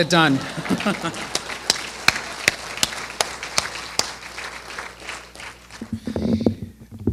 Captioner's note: applause; laughter